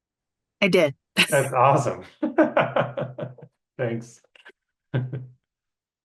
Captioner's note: laughing